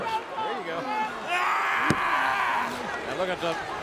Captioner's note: Shelton yelling